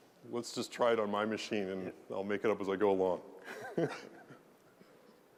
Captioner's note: laugh